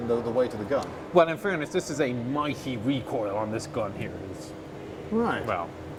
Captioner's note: sarcastically